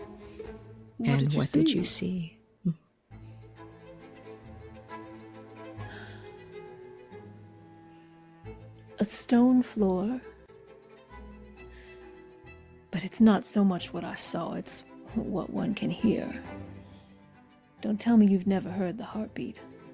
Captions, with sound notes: [Fatale and Mother in unison] "And what did you see?" "A stone floor. But it's not so much what I saw, it's what one can hear. Don't tell me you've never heard the heartbeat."